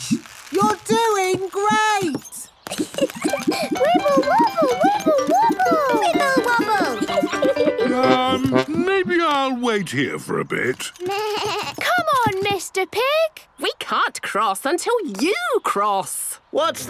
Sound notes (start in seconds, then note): 2.6 giggles; 11.0 bleating